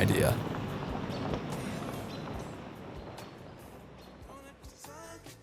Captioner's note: birds chirping